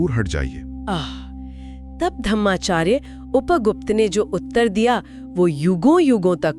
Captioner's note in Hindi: गहरी सांस लेने की आवाज़